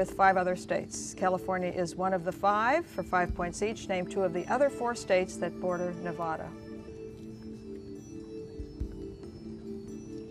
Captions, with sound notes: California is one of the five, for five points each, name two of the other four states that border Nevada. (whispering)